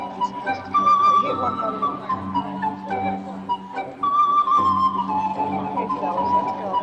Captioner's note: speaking faintly